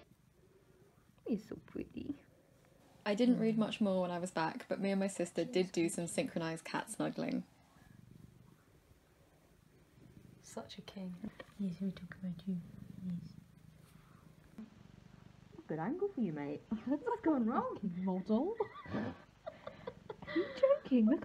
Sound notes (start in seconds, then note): 15.0 purring; 18.4 laughs